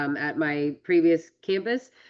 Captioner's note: none